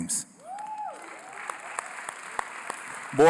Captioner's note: applause